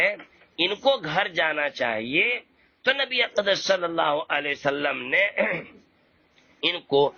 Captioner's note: clears his throat